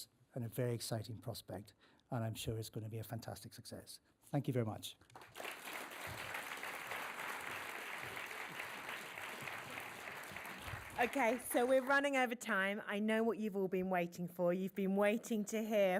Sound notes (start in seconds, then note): 5.1 applause